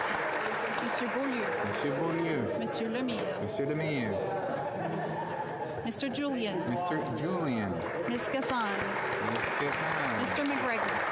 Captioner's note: calling of recorded vote